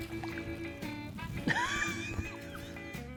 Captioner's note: relaxed country music; laughing